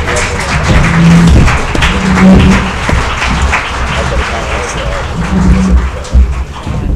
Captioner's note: applause